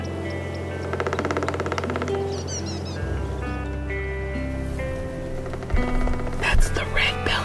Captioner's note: woodpecker pecking